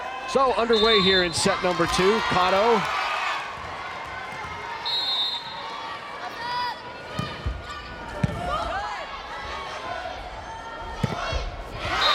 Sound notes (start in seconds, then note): 4.8 whistle blows; 8.7 crowd cheering